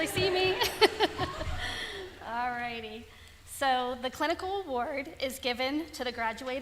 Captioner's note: laughter